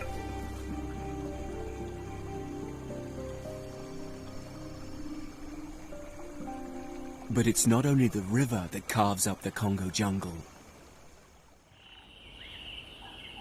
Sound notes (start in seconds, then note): 6.1 bugs chirping; 11.8 birds chirping